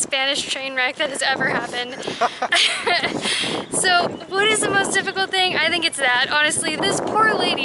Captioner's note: laughter